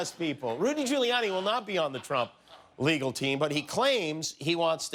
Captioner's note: laughter